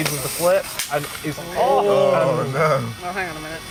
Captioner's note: "Ooooo" from the crowd